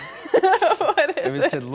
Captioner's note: laughs